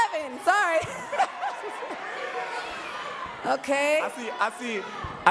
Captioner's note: laughs